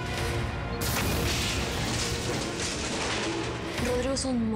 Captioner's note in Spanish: explosión